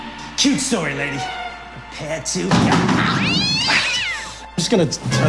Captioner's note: clattering, cat yowls